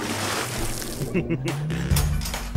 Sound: laughing

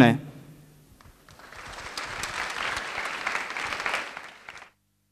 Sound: applause

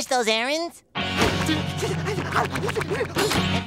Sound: panting

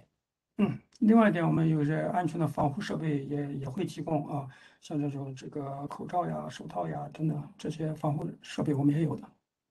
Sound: speaks in Mandarin

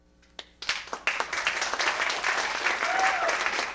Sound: audience claps

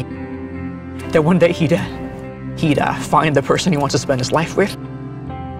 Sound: choking up

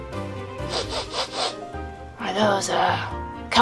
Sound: sniffing sounds

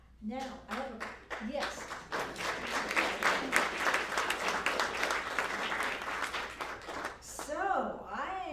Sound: applause

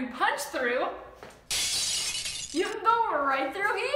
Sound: audio of glass crashing

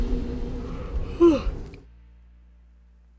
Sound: yawning

